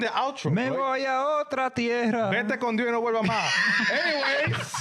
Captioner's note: speaking In Foreign Language